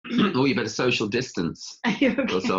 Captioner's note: laughs; coughs